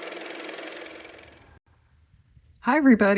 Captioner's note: car motor